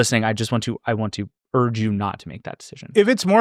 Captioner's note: none